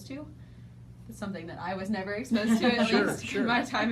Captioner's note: laughing